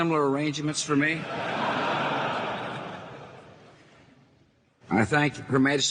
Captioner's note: audience laughing